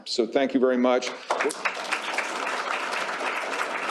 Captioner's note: applause